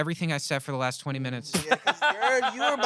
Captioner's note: laughs